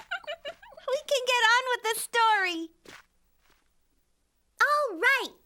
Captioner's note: giggling